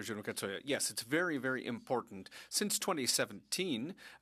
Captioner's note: speaking French